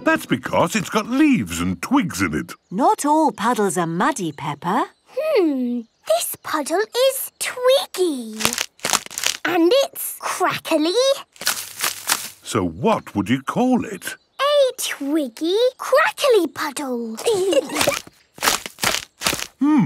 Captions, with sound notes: - That's because it's got leaves and twigs in it. - Not all puddles are muddy, Peppa. - Hmm. This puddle is twiggy. (crackling) And it's crackly... - So what would you call it? - A twiggy, crackly puddle! (kids giggling) (crackling)